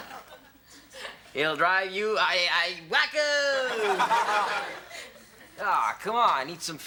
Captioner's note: audience laughs; audience laughs